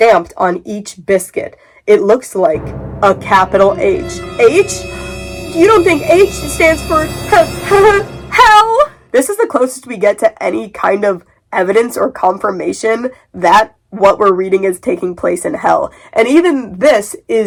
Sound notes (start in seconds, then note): 2.5 dramatic music; 3.8 comically scared voice; 5.1 gasp